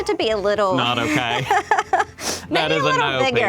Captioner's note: laughs